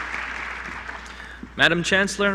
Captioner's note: applause